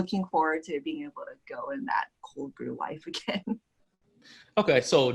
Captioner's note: laughs